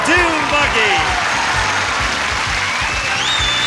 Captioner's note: audience cheering